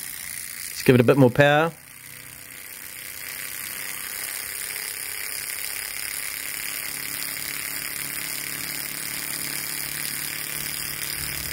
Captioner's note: engine noises